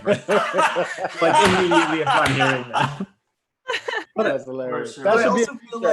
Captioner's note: laughs